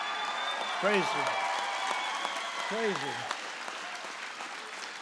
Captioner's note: applause